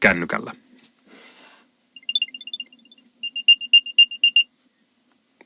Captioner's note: alarm sound